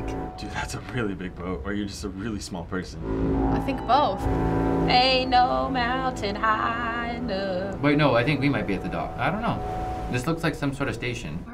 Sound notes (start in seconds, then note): 3.0 ship horn blaring